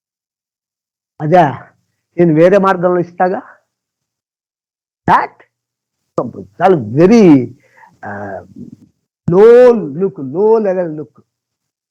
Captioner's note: speaking in Telugu